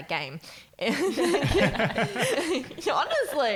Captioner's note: laughing